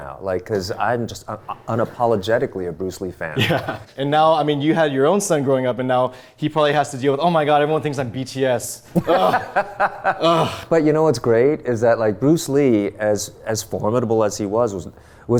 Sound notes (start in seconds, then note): 8.9 laughing